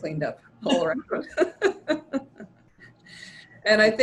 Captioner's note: laughter